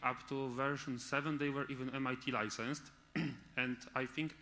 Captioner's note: clears throat